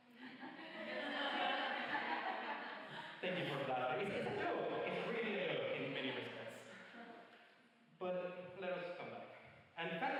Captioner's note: laughter and banter